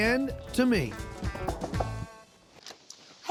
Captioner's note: knocking on door